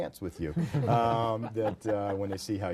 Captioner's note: group laughter